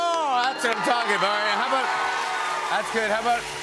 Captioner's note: cheers and applause